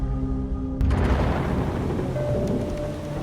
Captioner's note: thunder booms